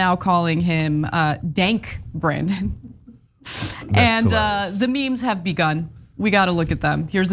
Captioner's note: laugh